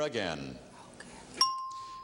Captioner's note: ringing bell